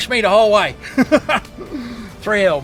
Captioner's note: laughing